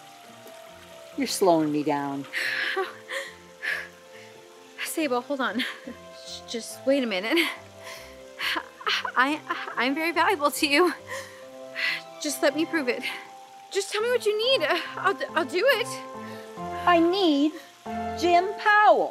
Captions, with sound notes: You're slowing me down. [hyper-ventilating] Sabal, hold on. [chuckles] Just wait a minute. I-- I'm very valuable to you. Just let me prove it. Just tell me what you need. I'll-- I'll do it. I need Jim Powell!